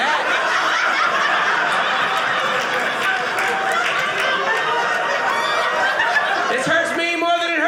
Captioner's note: audience laughing